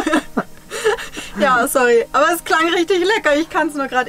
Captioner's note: laughs